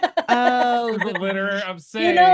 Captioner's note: laughter